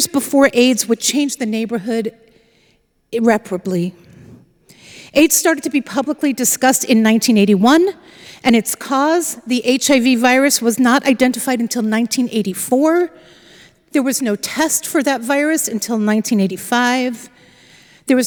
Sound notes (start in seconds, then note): none